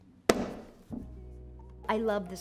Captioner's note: book slaps